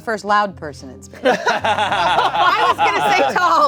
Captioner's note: laughing